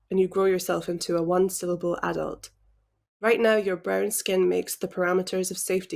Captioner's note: none